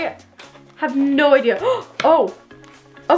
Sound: gasping

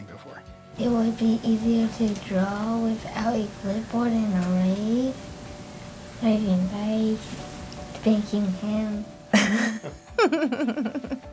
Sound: laughter

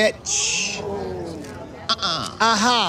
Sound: crowd gasping

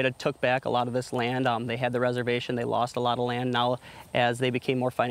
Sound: none

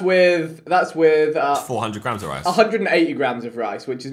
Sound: all laughing

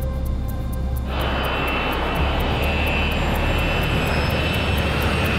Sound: engine whooshing

